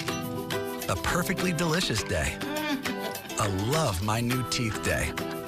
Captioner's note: chuckles